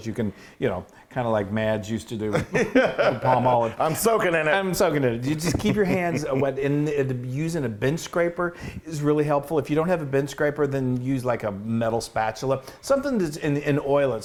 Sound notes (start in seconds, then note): 2.3 laugh